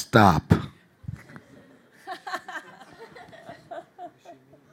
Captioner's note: audience laughing